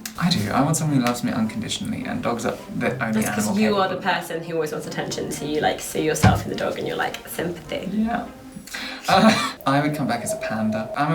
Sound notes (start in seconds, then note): 8.5 laughter